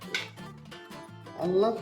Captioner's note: clattering